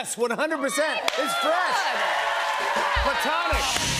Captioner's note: cheers and applause